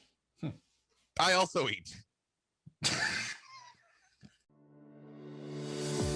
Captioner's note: laughs